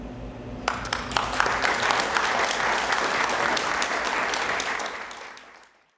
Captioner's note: applause